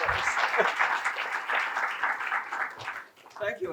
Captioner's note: applause